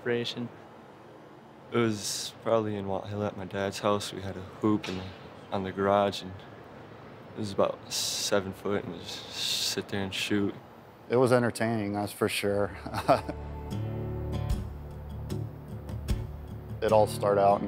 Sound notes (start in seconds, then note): 12.6 chuckles